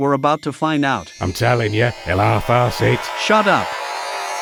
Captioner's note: teleporter noise